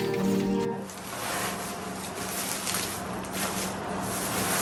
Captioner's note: paper rustling